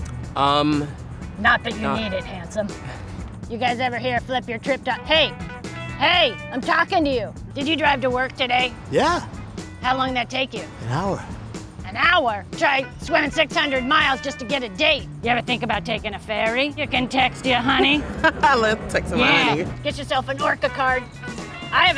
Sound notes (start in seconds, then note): 16.9 laughs